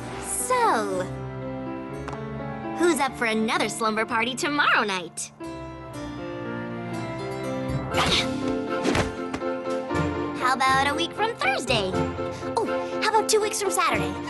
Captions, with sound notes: So... who's up for another slumber party tomorrow night? [ Thud! Thud! ] How about a week from thursday? Ooh, how about two weeks from saturday?